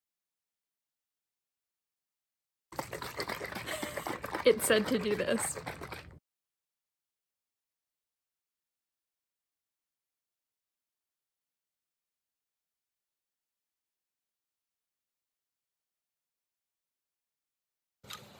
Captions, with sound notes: [laughing] it said to do this.